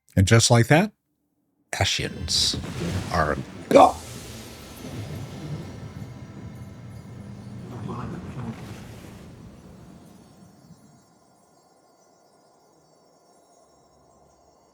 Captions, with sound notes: And just like that, ashes. (thunder rumbling) (gasping) (crickets chirping)